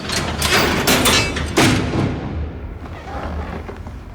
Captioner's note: cell door clinking